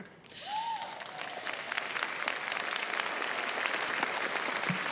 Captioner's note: crowd applauds